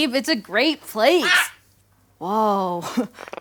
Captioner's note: parrot squawks